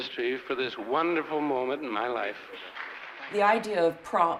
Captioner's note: audience clapping